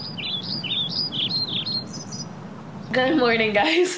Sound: biiirds

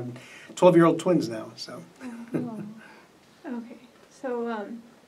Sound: laughs

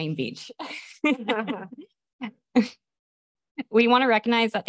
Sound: chuckling in background

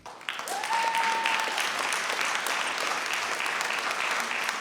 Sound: audience applauds

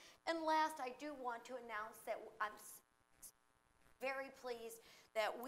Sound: none

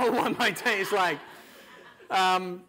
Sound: audience laughter

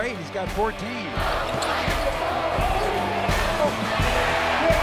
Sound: crowd cheering

